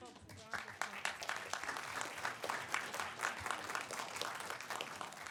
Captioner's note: attendees clapping